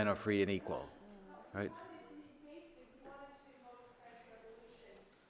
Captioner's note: speaker off-microphone